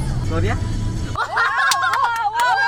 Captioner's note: screams in delight